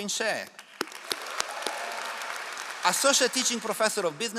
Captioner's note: all applauding